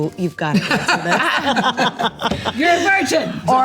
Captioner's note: group laughs